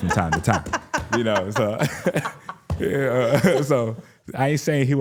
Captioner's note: laughs; laughing